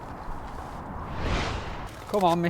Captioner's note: whooshing